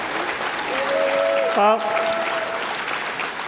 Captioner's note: applause